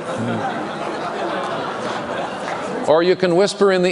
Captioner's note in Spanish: Risas